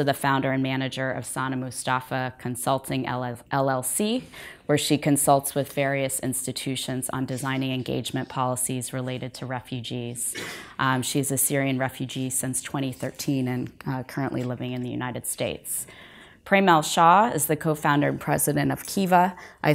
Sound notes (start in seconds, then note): none